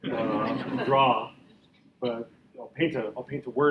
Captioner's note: audience laughing